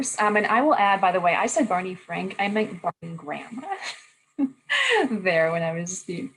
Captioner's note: laughter